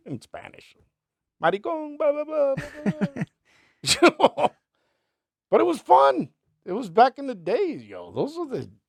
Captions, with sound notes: In Spanish. Maricon, blah, blah, blah. (laughs) But it was fun. It was back in the days, yo. Those are the...